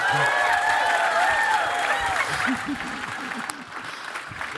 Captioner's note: cheering and applause